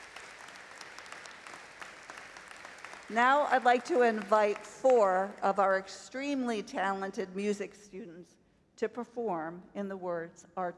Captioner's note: applause